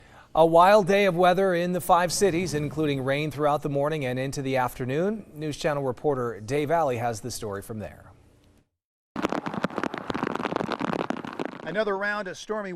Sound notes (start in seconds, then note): 6.4 rain falling